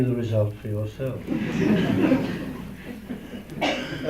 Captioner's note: laughter